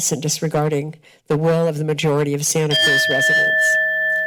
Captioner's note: bell rings